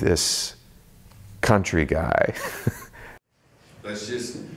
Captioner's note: laughs